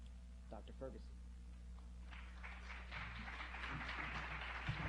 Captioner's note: applause